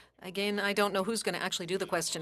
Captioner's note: speaking French